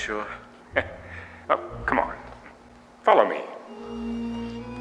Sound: chuckles

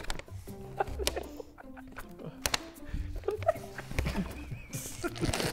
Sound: Sidemen laughing

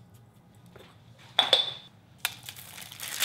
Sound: lid thuds; paper crinkling

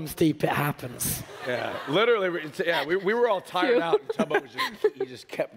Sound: laughter

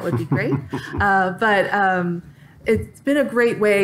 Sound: laughter

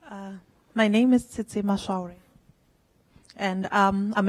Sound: voiceover

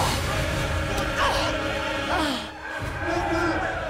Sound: grunts

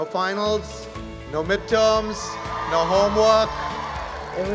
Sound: applause

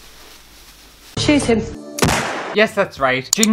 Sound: bang!

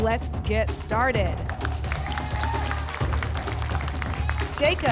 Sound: applause and cheering

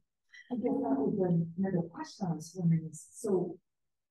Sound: woman mumbling

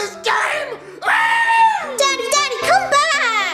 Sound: screams

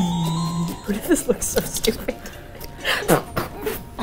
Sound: laughs

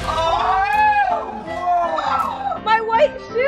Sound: yells

